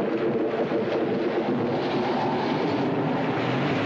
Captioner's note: engine revs